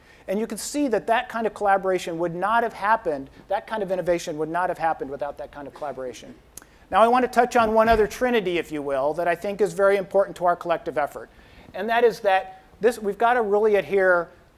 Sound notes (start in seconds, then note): none